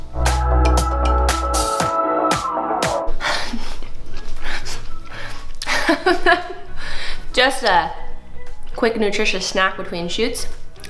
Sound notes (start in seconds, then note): 0.0 upbeat music; 3.4 laughing and chewing